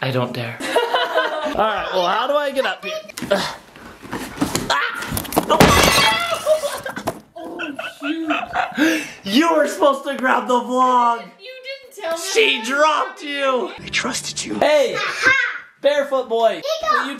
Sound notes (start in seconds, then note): 0.6 laugh; 5.1 crashes